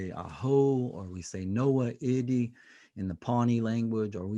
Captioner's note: speaking native language